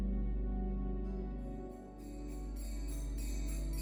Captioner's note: bell chimes